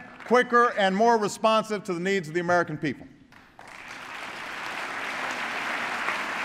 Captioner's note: applause